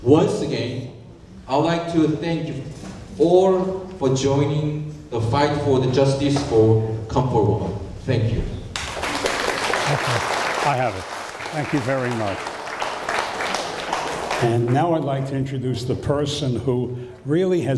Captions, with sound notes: Once again, I would like to thank all for joining the fight for the justice for Comfort Women. Thank you. (applause) - I have it. Thank you very much. And now I'd like to introduce the person who really